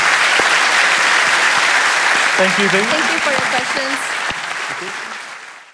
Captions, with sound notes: [ Applause ] >> Thank You. >> Thank You for your questions. [ Applause ]